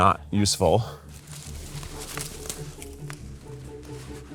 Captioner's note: leaves brush